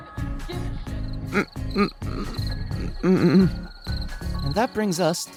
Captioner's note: crickets chirping